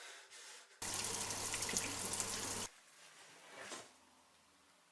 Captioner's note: water falling